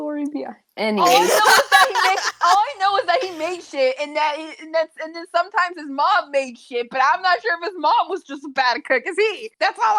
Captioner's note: laugh